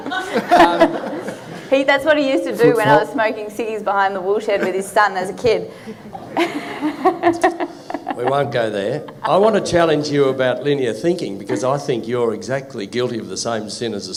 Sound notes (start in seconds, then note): 0.0 audience laughing; 5.8 audience laughing